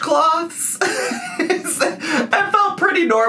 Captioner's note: laughs